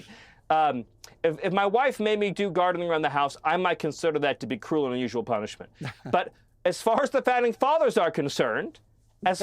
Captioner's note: laughter